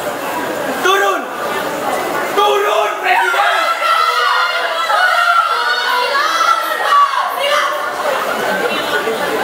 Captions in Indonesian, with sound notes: TURUN! Turun sekarang juga! Turun!! *kerumunan* SILENCE! DIAM!